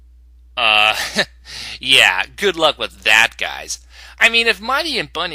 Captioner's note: chuckle